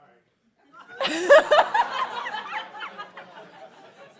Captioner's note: laughing